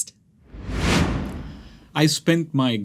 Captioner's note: air whooshing